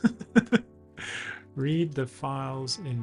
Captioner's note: laughs